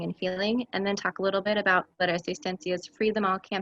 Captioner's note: speaks in Spanish